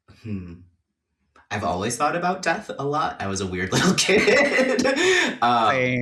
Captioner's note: laughs